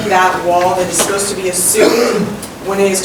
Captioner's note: coughing drowns out speech